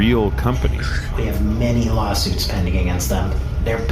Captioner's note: grumbling